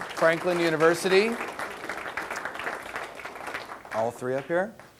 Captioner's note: audience applause